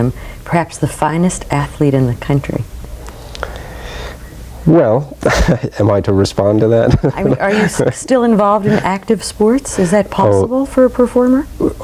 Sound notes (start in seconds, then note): 6.6 laughs